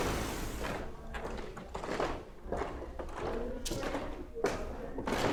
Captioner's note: footsteps tapping